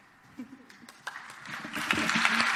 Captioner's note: audience applauds